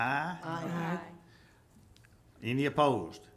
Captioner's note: group chanting